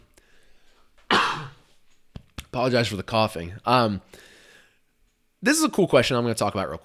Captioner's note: coughs